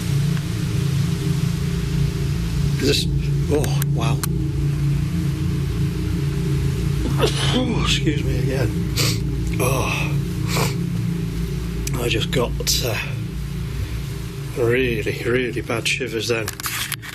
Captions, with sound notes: This, whoa, wow. (sneezing) Excuse me. I just got really, really bad shivers there.